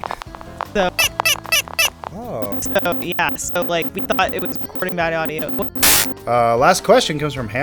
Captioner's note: audio distortion